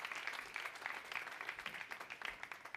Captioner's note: applause